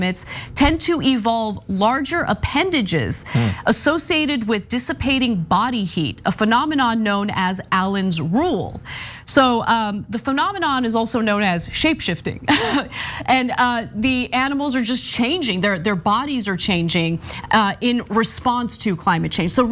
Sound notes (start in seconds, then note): 12.6 laugh